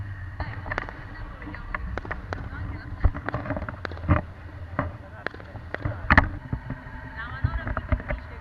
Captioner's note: fireworks